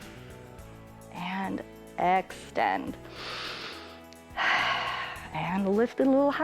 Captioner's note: inhales and exhales